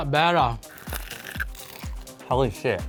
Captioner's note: crispy skin crunching